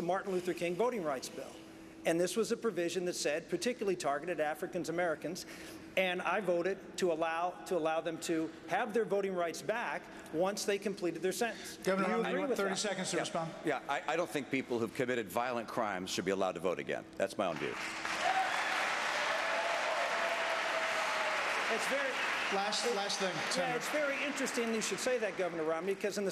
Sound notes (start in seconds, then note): 19.0 applause